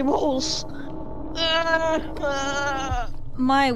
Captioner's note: crying noises